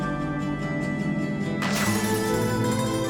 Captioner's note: gunfire